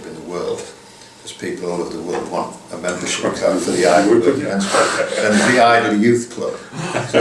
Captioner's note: laughter